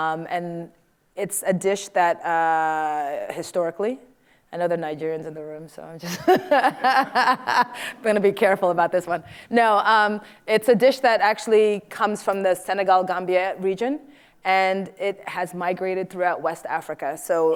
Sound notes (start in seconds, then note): 6.0 laughs